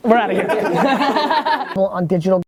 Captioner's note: group laughing